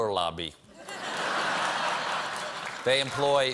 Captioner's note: laughter